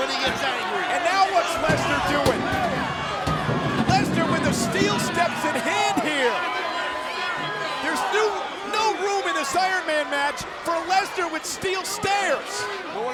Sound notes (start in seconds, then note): 1.6 steps clattering